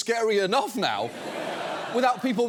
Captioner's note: audience laughs